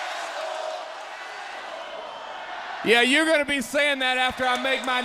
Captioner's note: crowd cheering